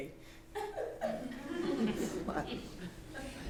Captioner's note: laughter